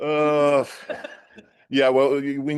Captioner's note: laughter